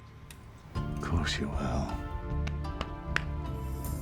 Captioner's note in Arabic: لهجة اسكتلندية